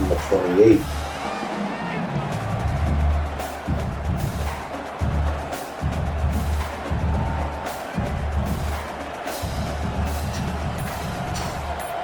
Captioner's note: crowd Noises